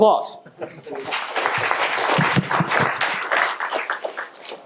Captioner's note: audience clapping